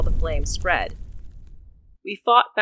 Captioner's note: sound of flames